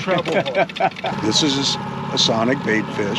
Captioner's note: boat engine running